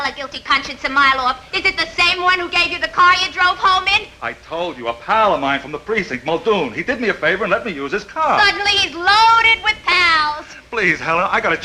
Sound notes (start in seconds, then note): none